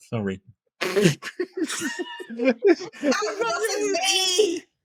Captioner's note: laughing